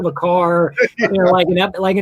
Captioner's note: laughing